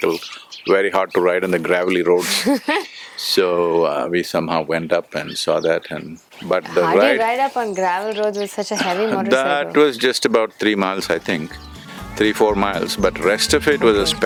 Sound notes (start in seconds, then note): 0.0 laughs; 2.1 laughs